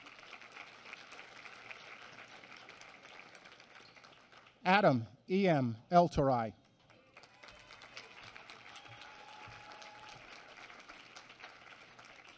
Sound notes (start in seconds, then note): 6.6 applause